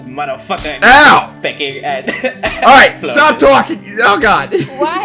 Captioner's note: laughter; laughs